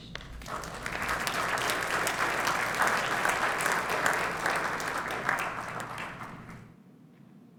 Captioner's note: applause